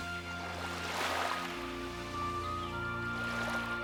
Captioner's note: splashing